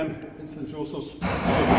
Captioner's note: hammering sounds